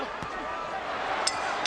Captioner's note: bell dings